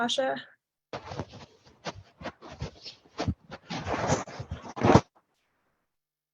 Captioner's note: audio interference rustling